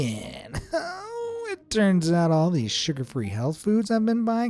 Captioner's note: whimpers